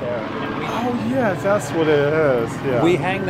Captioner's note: airplane Noises